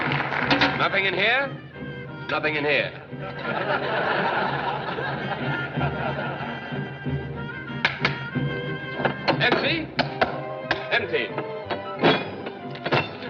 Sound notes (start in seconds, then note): 3.3 laughter